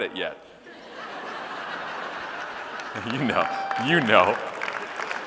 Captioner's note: audience laughing and clapping